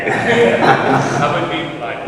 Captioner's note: laughs